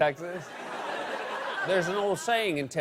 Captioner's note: laughter